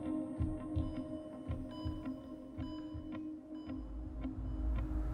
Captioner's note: hospital machines beeping